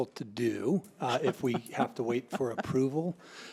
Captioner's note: laughing